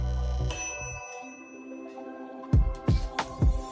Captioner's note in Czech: cink